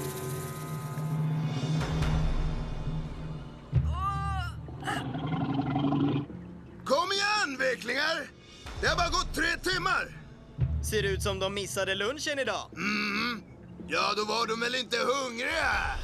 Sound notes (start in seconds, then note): 3.5 whimpers; 4.7 growls